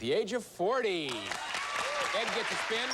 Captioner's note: applause